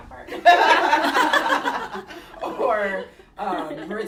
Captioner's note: laughter